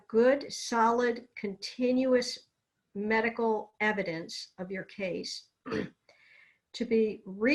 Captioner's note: clears throat